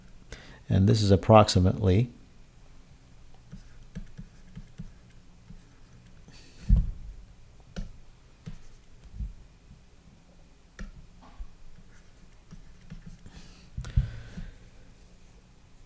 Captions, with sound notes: This is approximately-- [ Writing ]